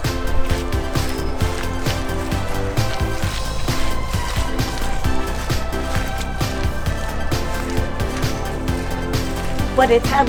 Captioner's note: wet footsteps over music playing